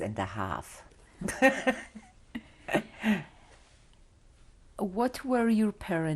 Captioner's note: laughs